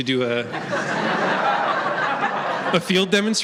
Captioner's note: laughter